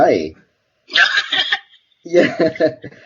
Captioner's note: laughs